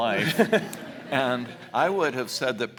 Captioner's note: audience laughs